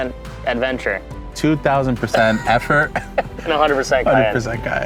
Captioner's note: laughing